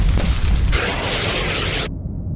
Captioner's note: fire extinguisher sfx